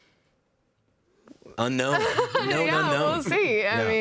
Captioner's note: laughing